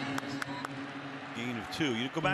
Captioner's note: whistle blows